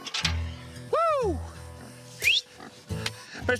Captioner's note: whistles